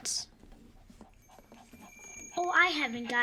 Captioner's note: bells ringing